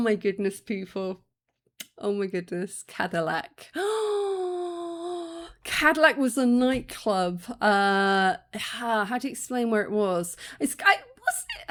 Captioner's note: long gasp